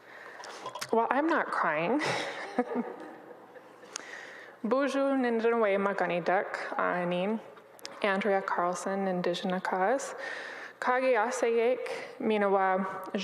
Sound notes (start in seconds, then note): 2.0 chuckles; 4.2 speaks in Ojibwe; 8.7 speaking in Ojibwe